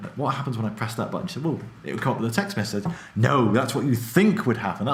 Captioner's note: none